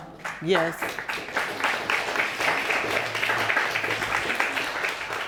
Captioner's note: audience applauding